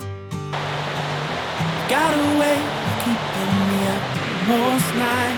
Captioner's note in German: Beifall